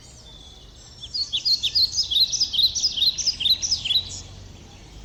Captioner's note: birds songs